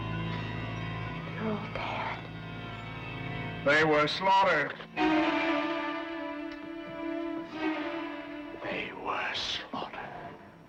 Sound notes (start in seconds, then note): none